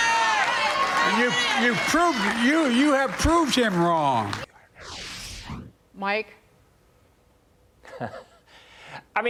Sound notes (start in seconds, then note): 4.3 cheers and applause